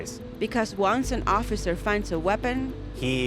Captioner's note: voiceover